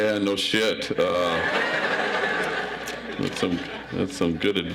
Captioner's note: audience laughs